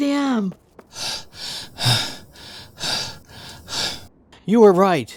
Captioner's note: panting